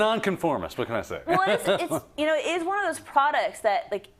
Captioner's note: laugh